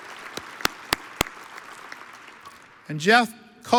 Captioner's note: audience applauds; claps